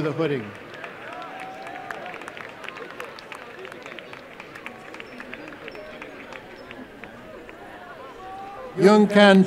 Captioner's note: applause